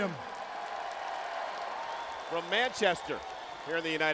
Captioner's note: crowd cheering